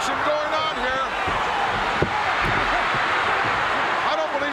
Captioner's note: audience cheering